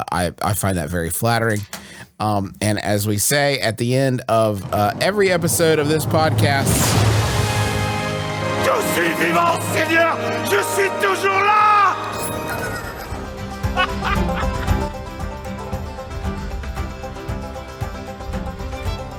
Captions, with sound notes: I find that very flattering. And as we say, at the end of every episode of this podcast. (dramatic music) (speaking in French) (laughs)